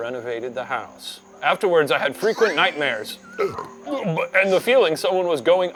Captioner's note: belching